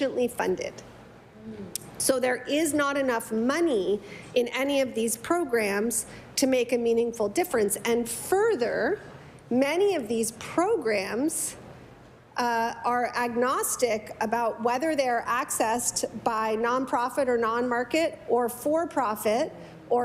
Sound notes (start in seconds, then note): none